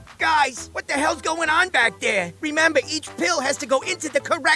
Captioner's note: none